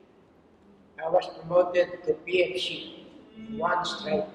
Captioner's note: foreign language